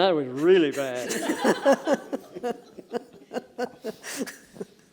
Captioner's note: laughter